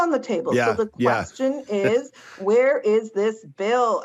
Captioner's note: on phone